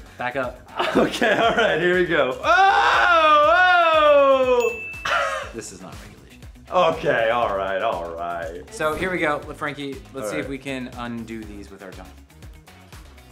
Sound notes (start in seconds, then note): 4.6 bell dings